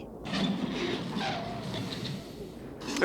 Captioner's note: squeaking